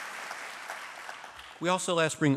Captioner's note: applause